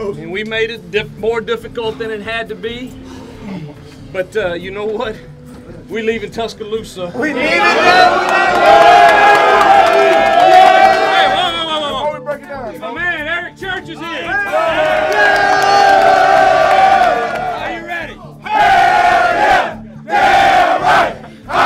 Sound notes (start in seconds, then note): 0.0 voiceover; 7.2 all yell; 12.2 voiceover; 14.2 yelling